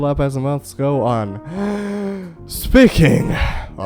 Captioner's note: takes deep breath